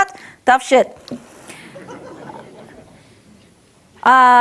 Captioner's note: audience laughs